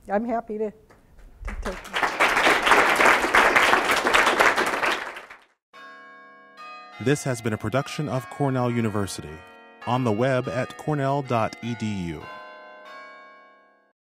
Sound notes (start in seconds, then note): 1.4 applause; 5.2 chimes